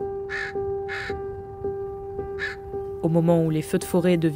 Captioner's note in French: croassement de corbeau